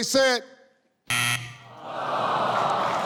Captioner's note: buzzer sounds; audience sighs